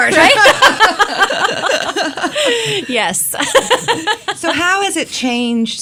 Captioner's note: laughs